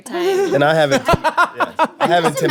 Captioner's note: laughing